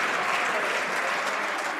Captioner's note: some Applause